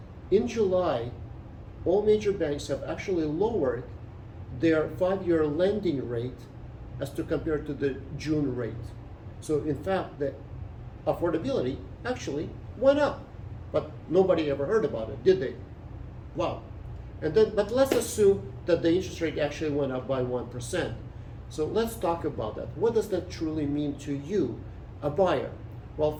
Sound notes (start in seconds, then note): 17.8 hands clap